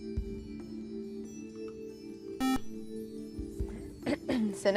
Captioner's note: buzzer